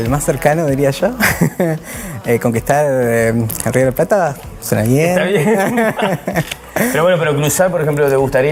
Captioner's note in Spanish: risas